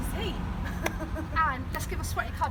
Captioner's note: laughs